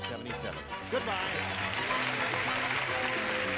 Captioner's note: applause